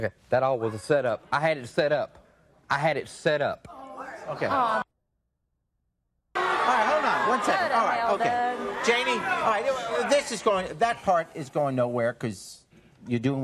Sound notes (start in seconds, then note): 3.8 audience booing